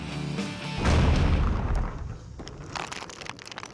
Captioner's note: explosion; rocks falling